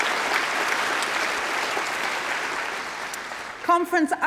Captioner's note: applause